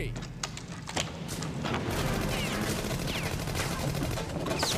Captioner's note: guns firing